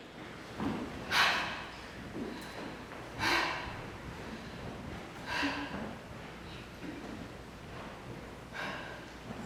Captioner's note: heavy breathing